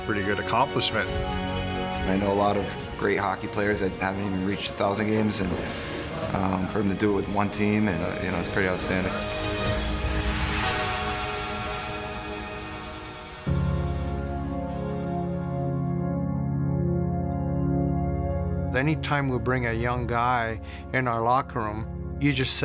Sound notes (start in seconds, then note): 10.6 horn buzzing